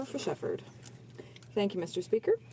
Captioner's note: speaking in french